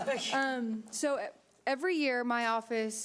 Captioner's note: audience laughing